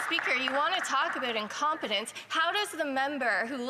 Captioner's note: some Applause